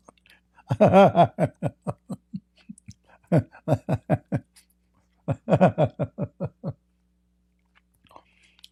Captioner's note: Ketawa